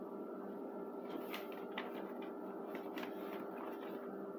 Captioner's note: more paper scattering